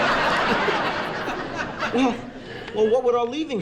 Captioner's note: audience Laughing